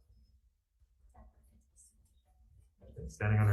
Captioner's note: person speaking quietly